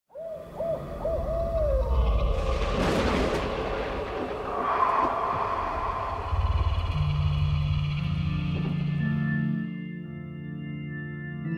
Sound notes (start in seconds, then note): 0.1 owl hoots; 3.0 scary noises